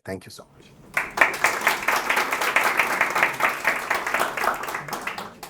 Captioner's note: applause